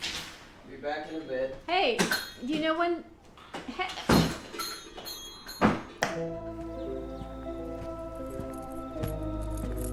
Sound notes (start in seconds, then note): 5.0 bell dinging; 6.2 suspenseful music